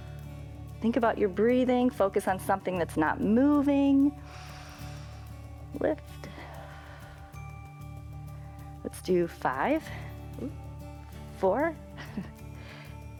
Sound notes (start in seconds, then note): 4.2 exhales; 12.0 laughs